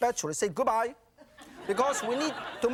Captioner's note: audience laughing